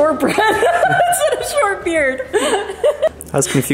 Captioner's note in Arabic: يضحك